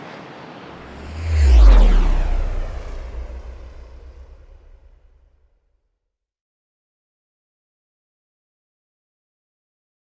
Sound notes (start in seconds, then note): 0.6 rocket zooming